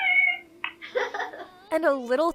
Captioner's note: chuckles